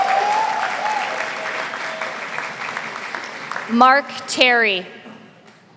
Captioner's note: applause